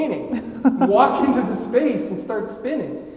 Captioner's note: laughing